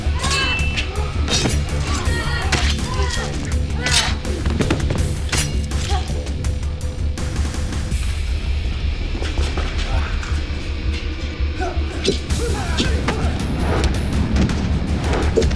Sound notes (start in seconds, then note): 0.0 thudding; 0.1 metal clinking; 2.6 guts squishing; 9.1 dramatic music; 13.2 whooshing